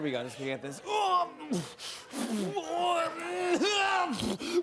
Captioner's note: grunting loudly